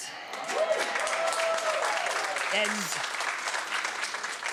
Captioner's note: audience applauding